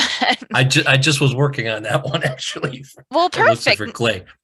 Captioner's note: laughs